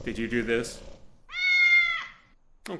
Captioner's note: meow